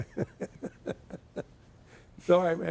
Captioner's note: chuckling